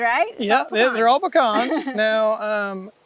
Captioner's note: laughing